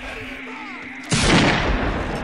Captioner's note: gunshot